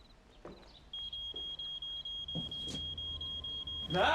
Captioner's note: smoke alarm beeps